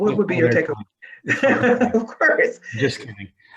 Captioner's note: chuckling